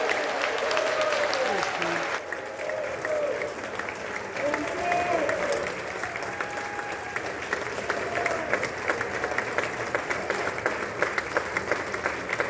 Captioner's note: applause